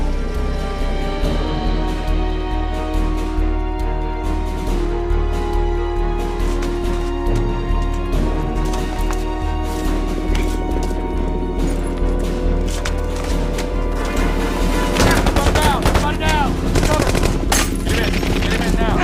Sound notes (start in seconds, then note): 15.0 guns firing